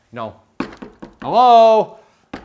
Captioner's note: knocking